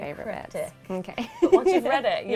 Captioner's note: laughing